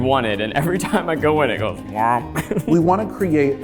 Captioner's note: laughs